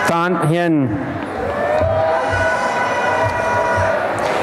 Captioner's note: applause and cheering